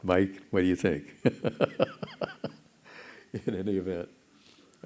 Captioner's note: chuckles